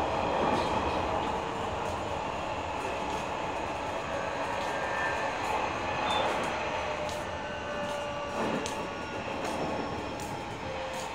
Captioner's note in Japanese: 減速音